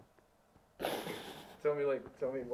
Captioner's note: laughs